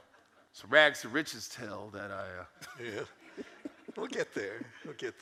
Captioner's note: audience chuckles; laughs